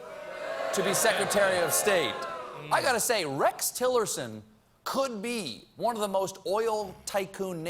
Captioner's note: audience reacts